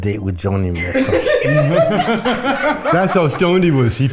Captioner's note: laugh